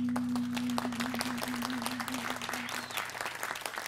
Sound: applause

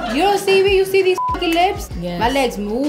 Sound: beep

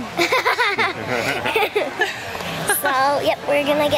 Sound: laughing

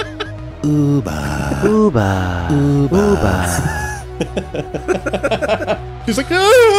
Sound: laughing

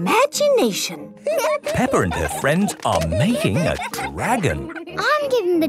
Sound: giggling

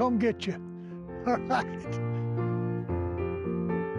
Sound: laughs

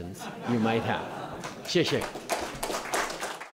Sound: laughter; applause

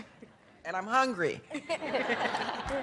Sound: laughter

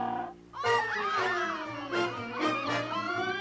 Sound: screaming

